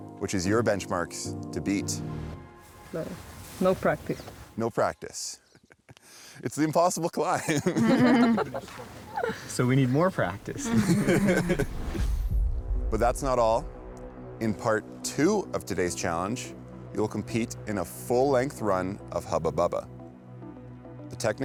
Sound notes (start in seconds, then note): 7.4 all laugh; 11.2 laughs